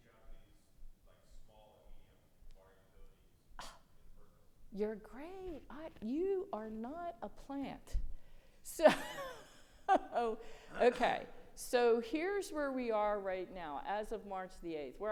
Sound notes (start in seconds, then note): 9.8 laughs